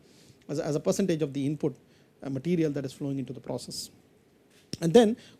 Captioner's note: asperation